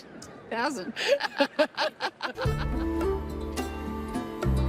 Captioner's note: both laugh